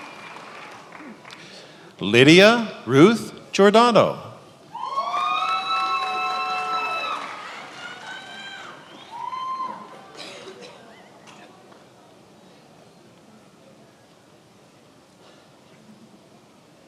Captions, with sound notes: Lydia Ruth Giordano. (attendees applauding and cheering)